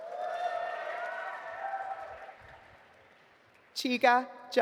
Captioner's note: audience applauding